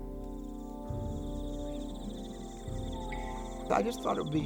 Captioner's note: insects chirping